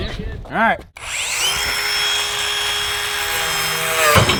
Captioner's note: saw whirring